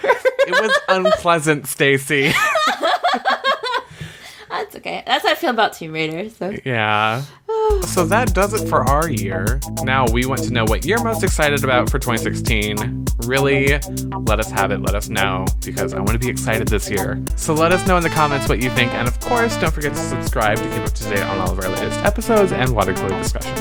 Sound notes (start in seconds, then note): 2.3 laughs